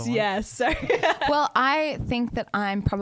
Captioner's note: laughs